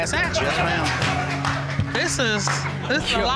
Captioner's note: audience laughs